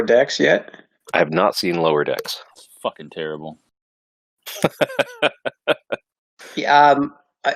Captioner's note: laughs